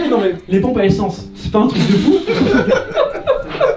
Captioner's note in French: rires